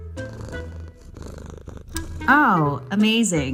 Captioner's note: Hershey purring